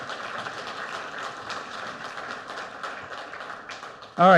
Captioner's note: audience applauds